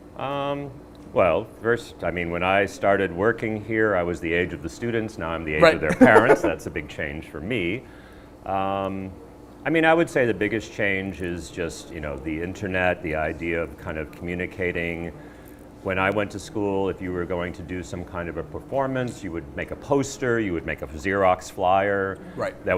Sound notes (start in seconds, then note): 5.6 laughing